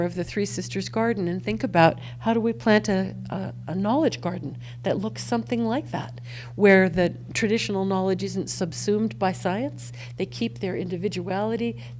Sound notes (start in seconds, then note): none